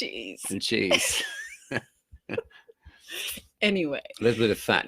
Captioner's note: both laughing